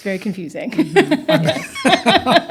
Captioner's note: laughter